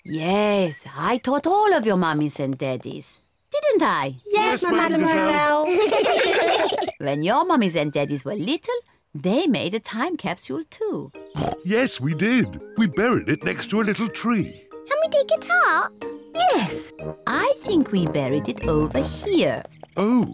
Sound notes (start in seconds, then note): 5.2 all laugh; 11.3 oinks